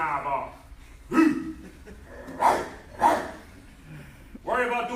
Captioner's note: barking sounds